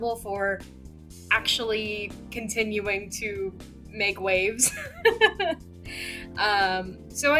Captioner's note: laughs